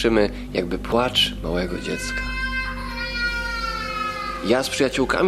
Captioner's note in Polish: dźwięk płaczącego dziecka